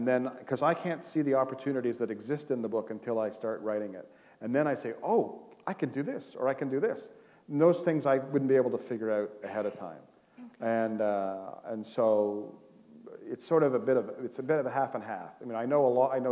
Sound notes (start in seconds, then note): none